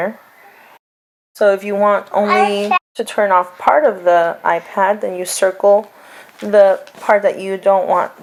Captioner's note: child talks